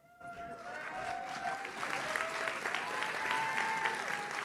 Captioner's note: audience cheers